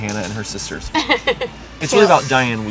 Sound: laugh

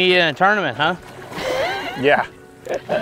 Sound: laugher

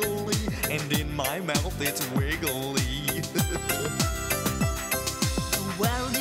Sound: laughs

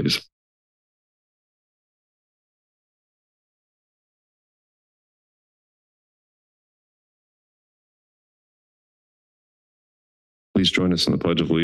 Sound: silence

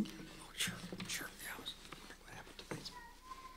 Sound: whispers

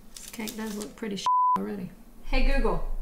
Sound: beep

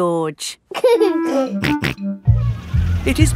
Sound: giggling and snorting

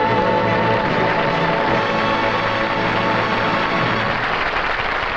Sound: audience applauding

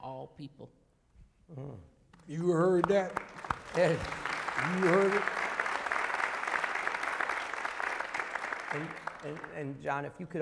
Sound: applause

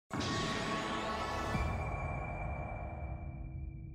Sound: sound effect

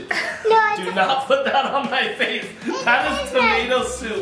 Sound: laughing

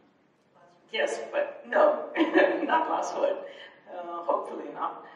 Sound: chuckles

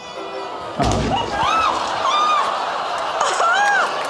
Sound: screams

